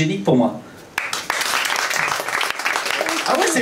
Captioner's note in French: applaus public